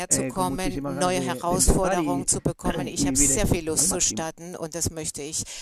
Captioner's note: coughs